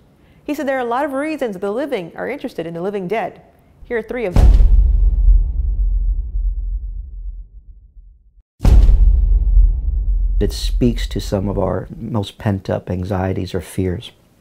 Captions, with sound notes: He said there are a lot of reasons the living are interested in the living dead. Here are three of them. (thud) It speaks to some of our most pent-up anxieties or fears,